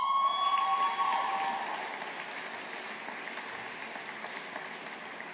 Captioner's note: audience applauding